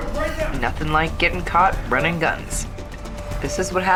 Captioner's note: Felina narrating